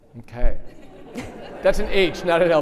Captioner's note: audience laughing